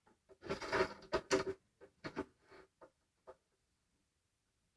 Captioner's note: metal scraping